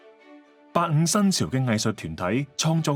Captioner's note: Cantonese